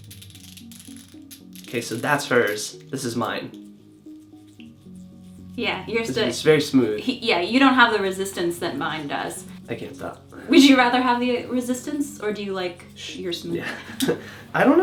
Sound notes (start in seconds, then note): 0.0 sustained soft crackling sound; 3.8 very faint, smooth sliding sound